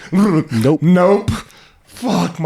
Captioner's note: laughing; shuddering